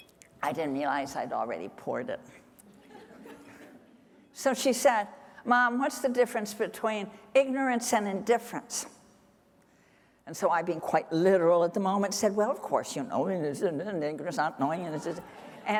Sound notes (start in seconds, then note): 12.9 speaking gibberish